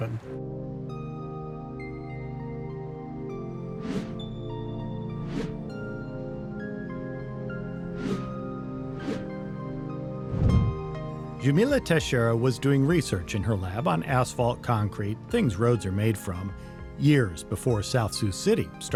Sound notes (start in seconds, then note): 0.3 gentle music; 7.9 swoosh; 8.5 gentle music